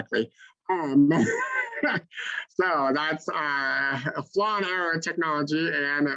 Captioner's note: laughs